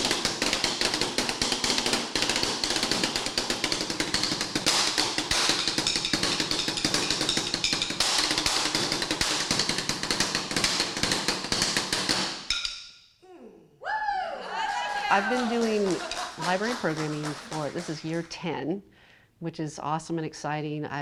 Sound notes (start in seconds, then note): 13.8 crowd cheering